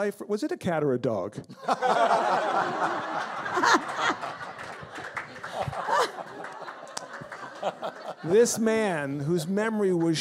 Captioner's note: audience laughs